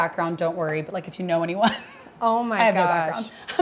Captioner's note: chuckles